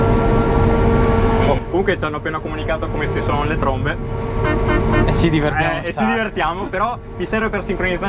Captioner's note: beep - beep - beep